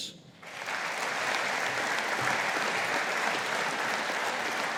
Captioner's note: audience applauding